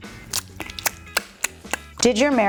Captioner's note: clicking tongue